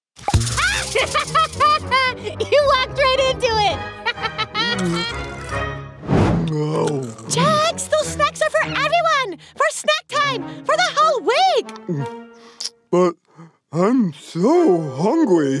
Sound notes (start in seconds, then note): 0.7 laughter